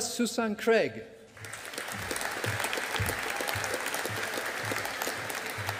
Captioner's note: audience applauding